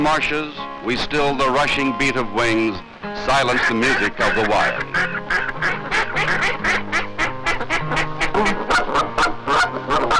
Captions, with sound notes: we still the rushing beat of wings, silence the music of the wild. (ducks quacking) (geese honking)